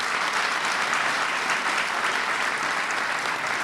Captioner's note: applause